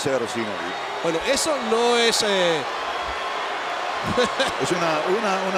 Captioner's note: laugh